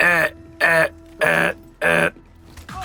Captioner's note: shitty deer grunts